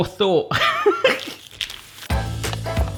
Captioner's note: laughs; upbeat music